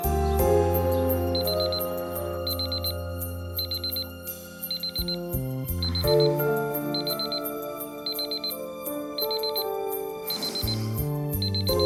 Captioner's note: alarm going off